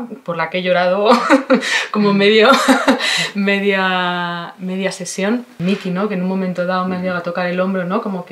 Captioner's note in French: rire